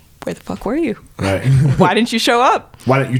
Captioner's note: chuckles